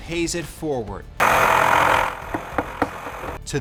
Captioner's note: tool loudly whirring